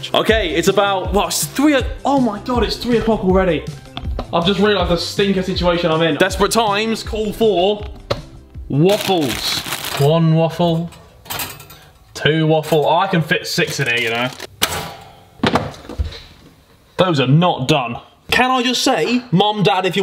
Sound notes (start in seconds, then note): 14.7 toaster pops